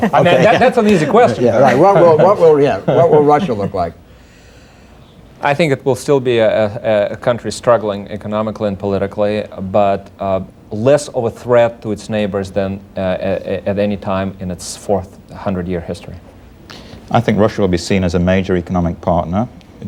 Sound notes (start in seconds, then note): 1.6 laughter